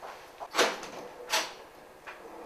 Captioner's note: door closing